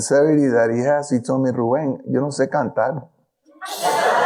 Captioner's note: speaking in foreign language; audience laughing